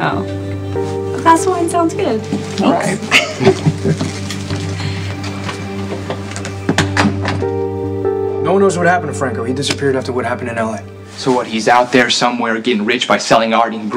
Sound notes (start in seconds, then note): 3.0 chuckles; 5.9 door closes